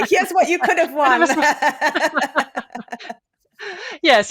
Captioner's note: laughter